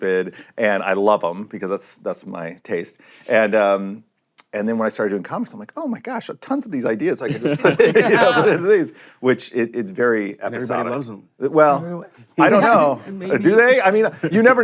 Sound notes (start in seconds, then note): 7.2 laughter